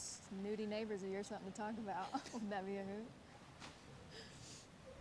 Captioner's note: chuckles